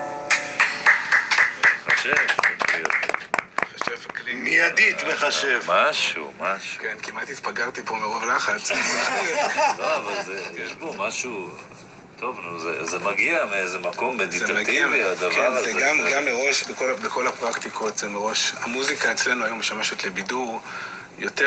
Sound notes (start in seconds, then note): 0.2 applause; 8.7 laughing